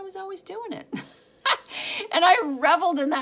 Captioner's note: laughing